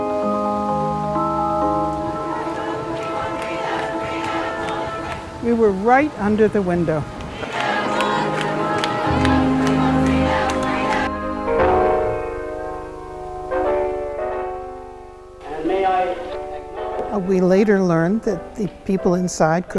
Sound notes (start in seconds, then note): 0.2 rain falling; 4.1 women chanting; 7.4 women chanting